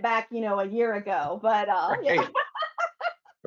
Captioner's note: laughs